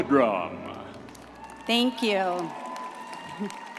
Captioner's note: audience applauding